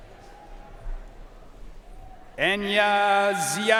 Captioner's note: audience cheering and applauding